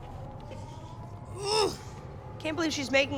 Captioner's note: groan